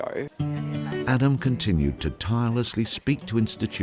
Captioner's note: chuckles; voiceover